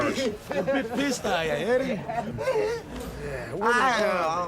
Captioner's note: laughs